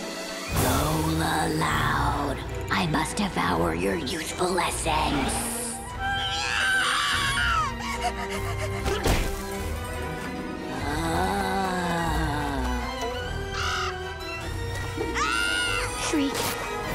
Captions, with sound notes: Lola Loud, I must devour your useful youthful essence. [screaming] [moaning] [squawking] [screaming] Shriek!